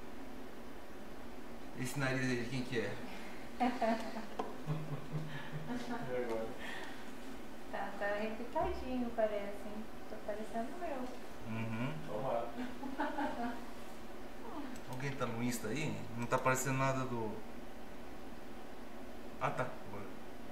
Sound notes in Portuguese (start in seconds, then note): 3.6 Risos; 12.6 risos